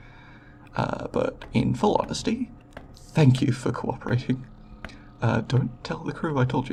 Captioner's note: footsteps